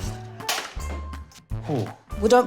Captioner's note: thwack!